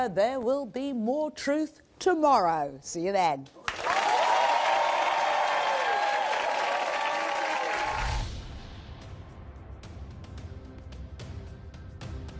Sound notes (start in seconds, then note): 3.6 audience applause; 8.1 slow dramatic music